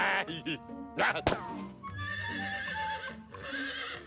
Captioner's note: horse neighs